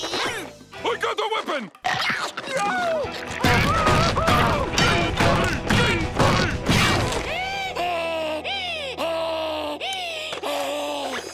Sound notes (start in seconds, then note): 3.4 screaming; 6.9 heavy panting